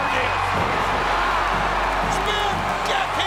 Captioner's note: audience roars